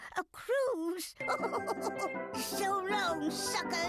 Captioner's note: laughing